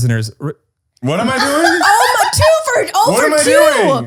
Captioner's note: laughter